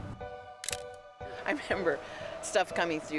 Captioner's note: camera snapping